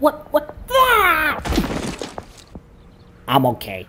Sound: load Thud

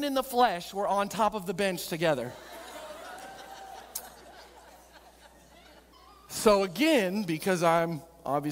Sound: audience laughing

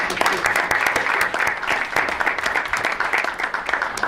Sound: audience applauds

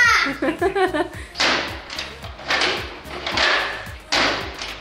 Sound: clicking

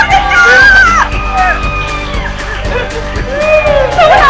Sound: cheering

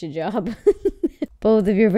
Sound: laughing

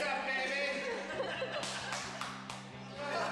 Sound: laughing

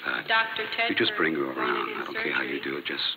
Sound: voice paging doctor

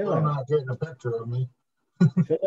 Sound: laughs

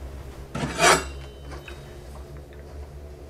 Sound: blade swipe

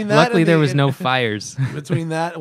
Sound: laughter

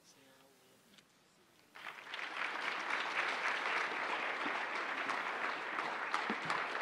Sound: applause

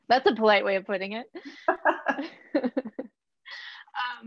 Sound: laughs

